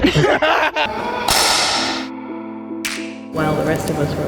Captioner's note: girls laughing